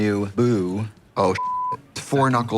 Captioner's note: beep